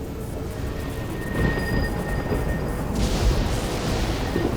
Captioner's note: thunder rumbling